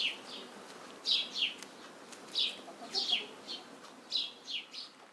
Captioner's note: footsteps pattering